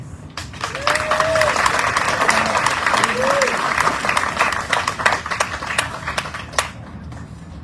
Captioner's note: audience cheering, applauding